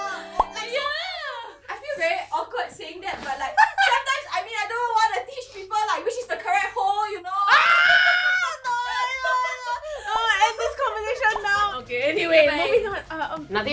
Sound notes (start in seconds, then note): 0.0 screaming; 7.4 screaming